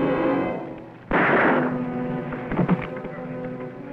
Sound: gun fires

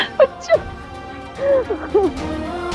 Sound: sobbing

